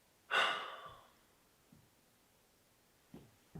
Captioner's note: Jacob sighs